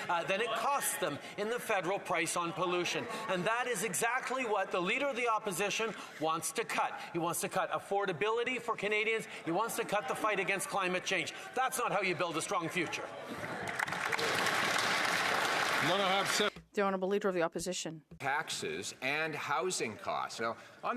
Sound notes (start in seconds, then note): 16.8 some Applause